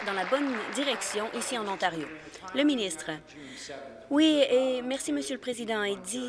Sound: applause

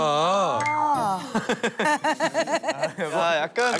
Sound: hehehehehe

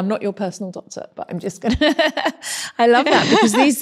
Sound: laughs

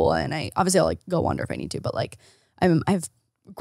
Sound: faintly speaks

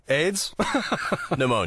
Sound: laughs

